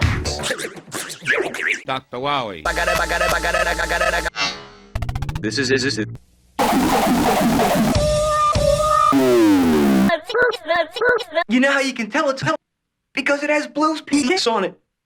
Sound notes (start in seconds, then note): 0.3 vibrato'd; 6.6 loud distorted noises; 7.8 Blue barks in reverse; 9.0 loud distorted noise lowering in pitch